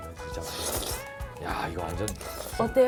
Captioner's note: slurp 😋